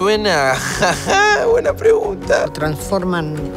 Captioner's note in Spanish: Riendo